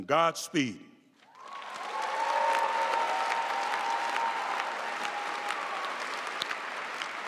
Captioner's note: audience cheering and applauding